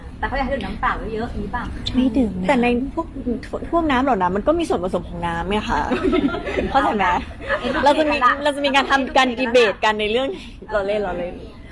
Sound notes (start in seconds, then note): 5.9 laughing